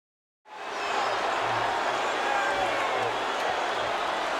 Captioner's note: crowd murmuring